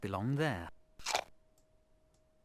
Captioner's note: apple munching sound